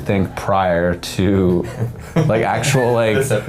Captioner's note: men laughing